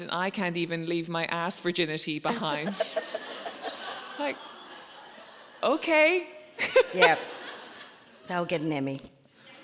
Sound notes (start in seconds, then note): 2.4 audience laughs; 6.1 laughs